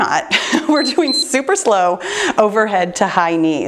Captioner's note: timer beeps